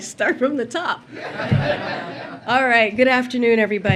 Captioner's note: laughter